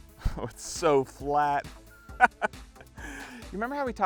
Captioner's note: laughs; upbeat music continues